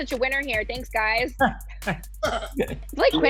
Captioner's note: chuckling